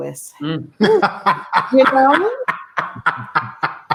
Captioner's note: laughing